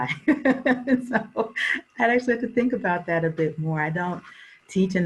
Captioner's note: laughs